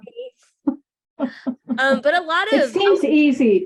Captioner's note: laughs